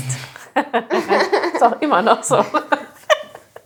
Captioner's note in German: Lachen